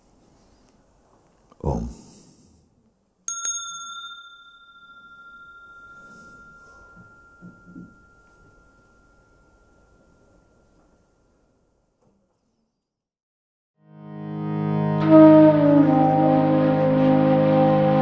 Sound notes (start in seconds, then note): 3.2 rings the bell